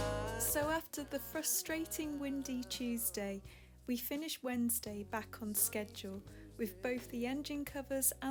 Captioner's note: voiceover